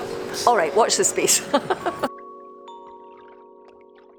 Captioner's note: Fat laughs; laughs